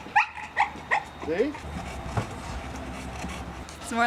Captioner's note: dog Panting